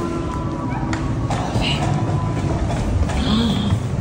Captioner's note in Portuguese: falando baixo; sussurrando